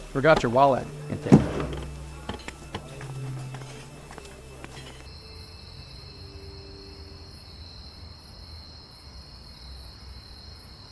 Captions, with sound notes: - Forgot your wallet. (insects chirping)